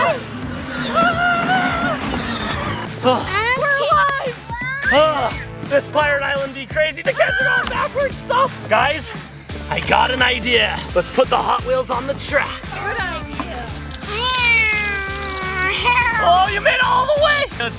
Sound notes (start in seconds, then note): 14.0 making car sounds